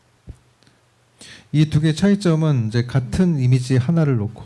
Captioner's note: speaking korean